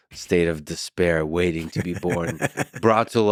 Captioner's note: laughs